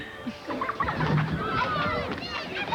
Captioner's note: kids laughing; kids begin shouting excitedly